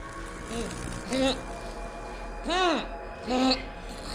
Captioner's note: Tyler groaning